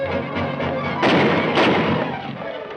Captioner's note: gunshots